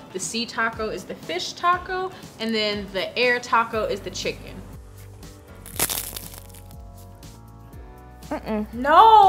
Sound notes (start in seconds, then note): 5.5 taco crunching